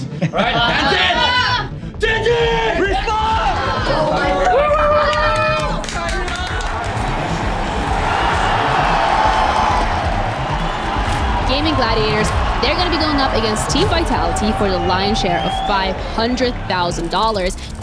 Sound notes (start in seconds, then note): 2.8 crowd; 4.7 applauds; 4.7 indistinct chatter; 7.1 crowd cheering